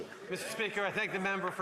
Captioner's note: applause